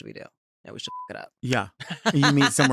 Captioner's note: beep